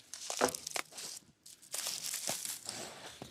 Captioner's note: rustling